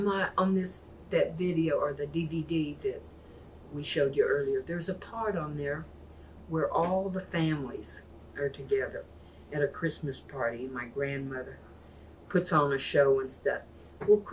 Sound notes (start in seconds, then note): none